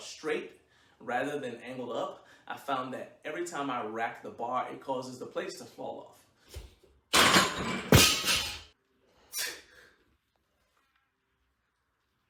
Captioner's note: loud Crash